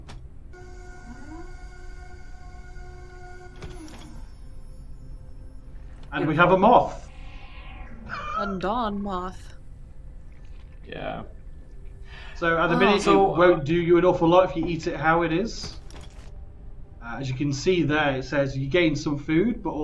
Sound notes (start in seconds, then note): 0.5 whirring; 4.2 chimes